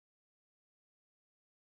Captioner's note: none